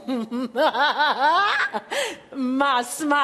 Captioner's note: laughs